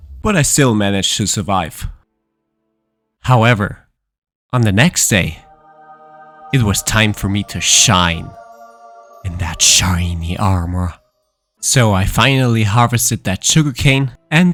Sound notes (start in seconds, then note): none